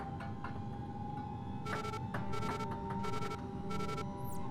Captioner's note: device beeping